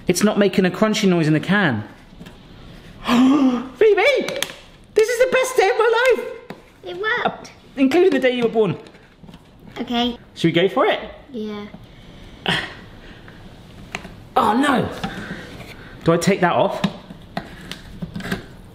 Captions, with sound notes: It's not making a crunchy noise in the can. (suddenly gasps) Phoebe, this is the best day of my life! - It worked! - Including the day you were born! - Okay... - Should we go for it? - Yeah. - (grunts) Oh no! Do I take that off?